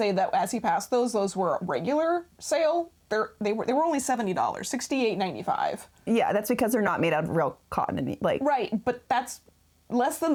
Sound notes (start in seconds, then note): none